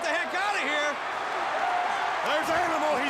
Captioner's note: crowd cheering